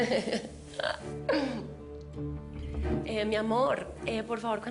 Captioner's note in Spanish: Risas